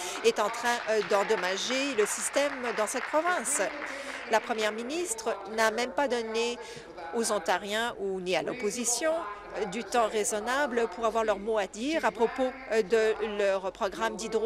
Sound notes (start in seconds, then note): 6.5 applause